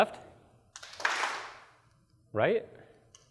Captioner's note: claps